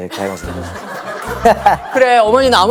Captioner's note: hehehe